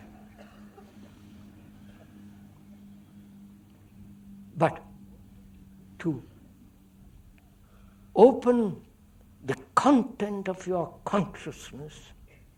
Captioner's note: laughter